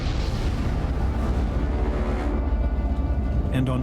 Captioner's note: gunshot